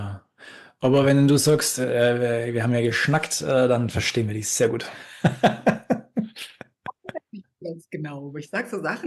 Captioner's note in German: gelächter